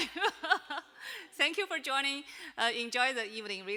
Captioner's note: chuckles